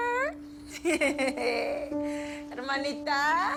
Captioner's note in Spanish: Risas